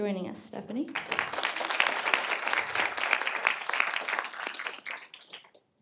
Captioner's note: audience applauding